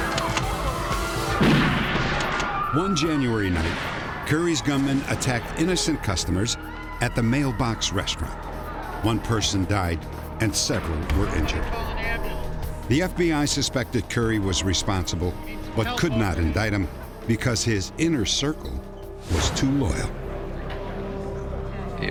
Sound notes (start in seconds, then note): 1.4 gunshot